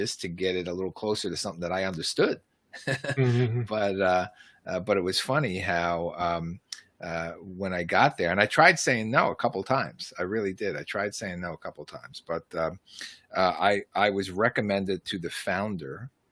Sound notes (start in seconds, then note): 2.8 laughs